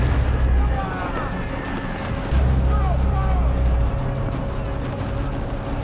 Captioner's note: bombs exploding; gunfire; shouting